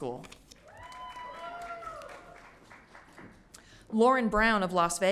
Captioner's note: audience cheering